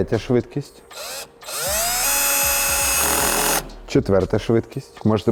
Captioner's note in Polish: dźwięk wkrętarki